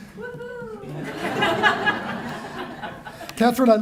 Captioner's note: laughter